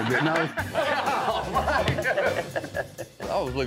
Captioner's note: all laughing